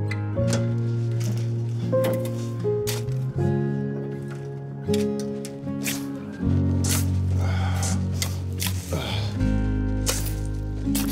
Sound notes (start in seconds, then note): 7.4 exhales sharply